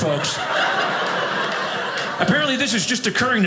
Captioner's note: audience laughing